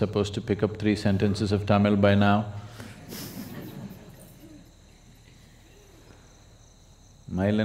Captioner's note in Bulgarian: смее се; Говори на тамилски